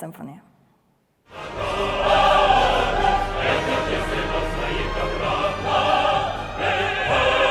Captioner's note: triumphant music; foreign language